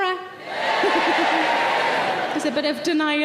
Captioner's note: random audience members shouting